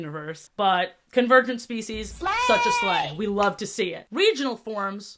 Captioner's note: "slayyy" sfx